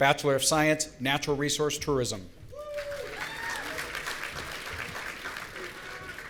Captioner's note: audience cheering